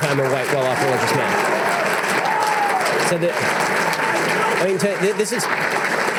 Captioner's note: audience applause